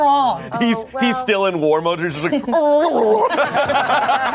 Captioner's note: everyone laughs; grumbles